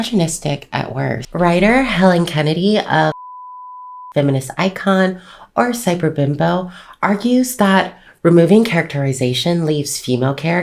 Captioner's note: beep